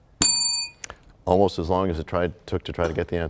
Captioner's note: bell rings, time expires